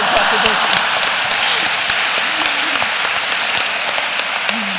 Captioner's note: applause